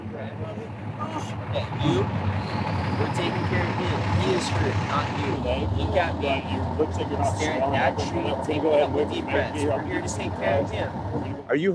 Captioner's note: groaning